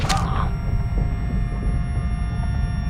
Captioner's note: stabbing sound